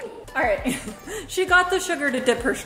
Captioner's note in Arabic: ضحكات خافتة